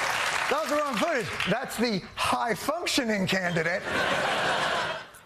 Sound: applause

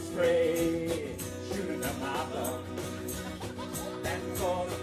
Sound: audience laughing

